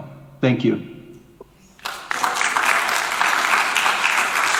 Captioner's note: applause